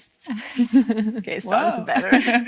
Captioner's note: interviewer chuckles